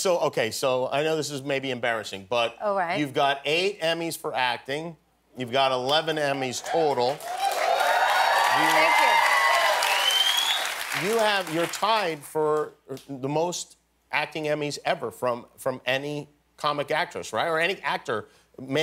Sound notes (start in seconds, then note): 6.2 applause and cheering